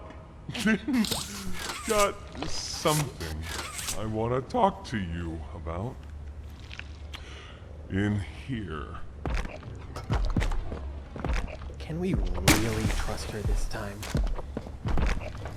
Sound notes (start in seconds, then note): 0.5 laughs